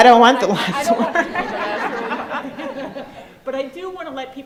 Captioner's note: crowd laughs